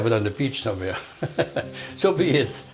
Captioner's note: laughing